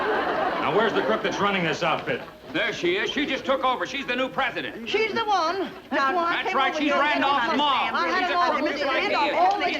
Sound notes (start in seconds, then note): 7.0 arguing